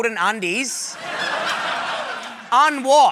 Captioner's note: laughter